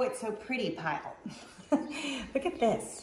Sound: woman laughs

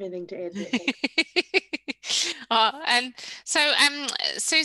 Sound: chuckles

